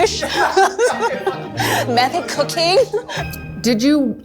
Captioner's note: laughs